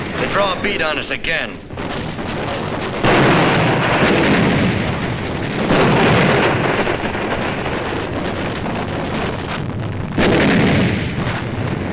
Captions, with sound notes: They draw a bead on us again. (explosions booming) (guns firing)